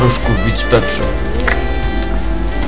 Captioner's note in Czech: Mláská